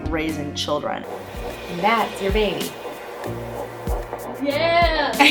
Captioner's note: heartbeat